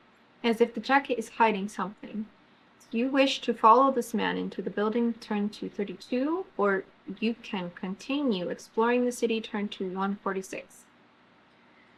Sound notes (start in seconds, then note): none